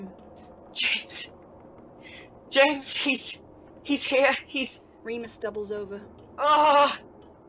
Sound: pained screaming

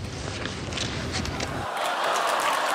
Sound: audience laughs

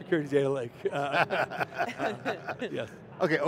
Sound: laughing

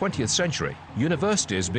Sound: cheering

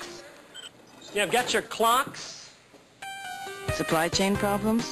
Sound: wheels squeaking

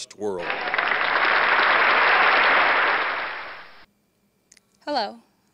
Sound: applause

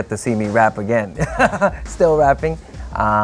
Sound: laughing

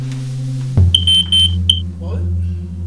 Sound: smoke Alarm Chirps repeatedly

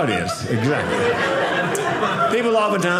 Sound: audience laughing

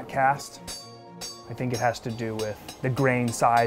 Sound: hammer clanking on steel

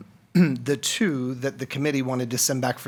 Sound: clears throat

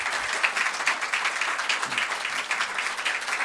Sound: applause

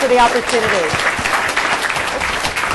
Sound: applause

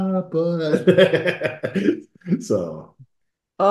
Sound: laughing

